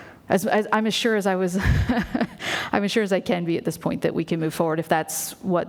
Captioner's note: laughs